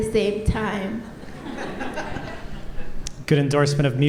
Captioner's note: audience laughter